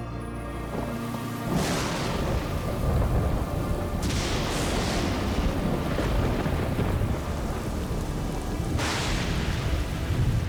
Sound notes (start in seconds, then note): 1.7 thunder crashing